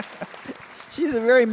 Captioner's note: laughter